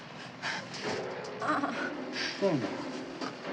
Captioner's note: groaning; piano continues playing